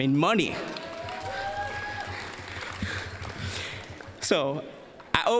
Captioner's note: applause, cheering